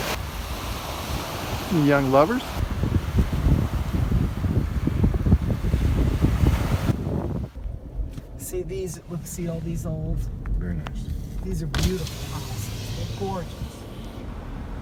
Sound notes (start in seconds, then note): 3.1 wind blowing